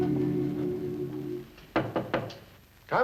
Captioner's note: knocking on the door